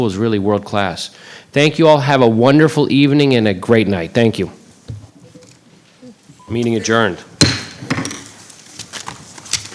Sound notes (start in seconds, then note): 7.4 gavel banging